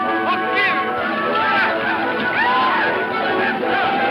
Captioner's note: Indians yell